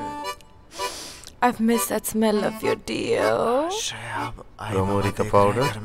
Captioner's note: Inhales